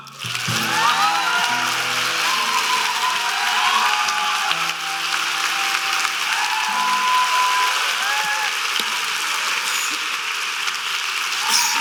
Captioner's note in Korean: 박수 및 환호